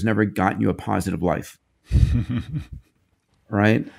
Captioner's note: laughs